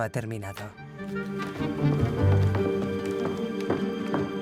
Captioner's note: foot stomps